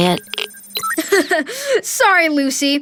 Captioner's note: laughing